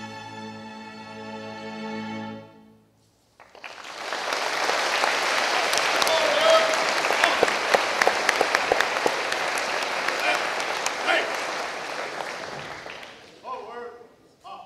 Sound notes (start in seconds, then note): 3.4 applause